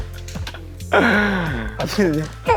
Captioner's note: haha